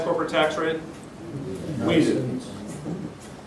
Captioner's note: murmurs